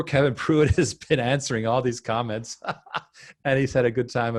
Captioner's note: laughing